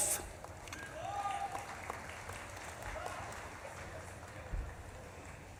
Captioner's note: audience claps and cheers